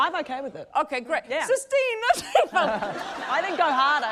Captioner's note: italian accent